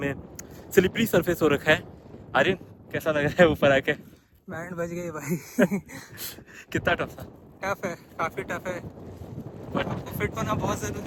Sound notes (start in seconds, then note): 5.2 laughter